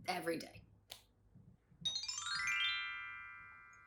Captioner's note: chime sound